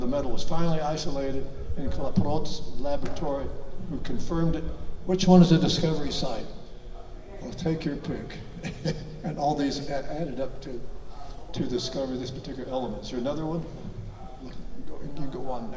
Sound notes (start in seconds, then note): 8.4 chuckles